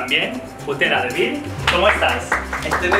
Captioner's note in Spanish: aplausos